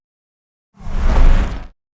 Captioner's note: whooshing